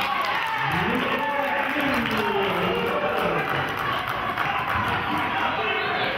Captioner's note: cheering and clapping